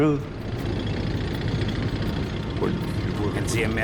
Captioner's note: tank engine whirring